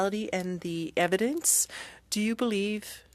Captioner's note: speaking french